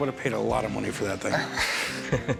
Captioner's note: laughter